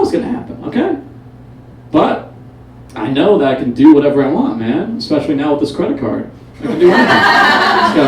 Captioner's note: audience Laughs